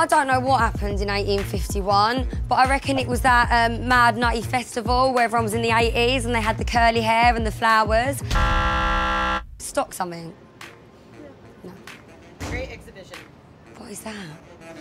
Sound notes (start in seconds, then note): 8.3 buzzer